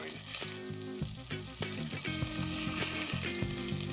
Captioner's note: sizzling; upbeat jazzy music